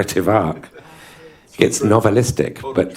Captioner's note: laughter